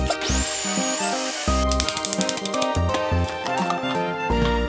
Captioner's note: playful music; machine whirs